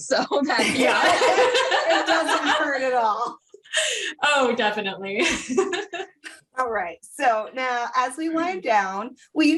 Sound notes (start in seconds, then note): 5.2 laughter